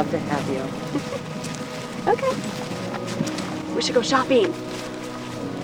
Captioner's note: giggles